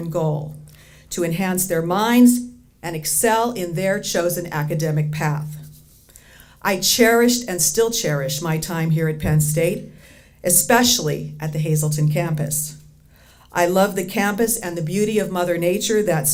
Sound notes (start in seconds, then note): none